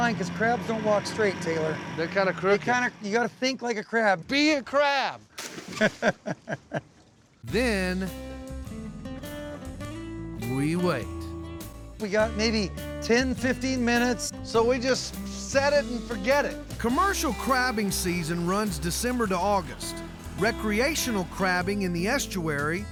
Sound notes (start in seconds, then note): 5.7 laughter